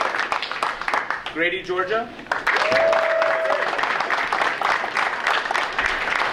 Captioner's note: audience cheering; audience cheering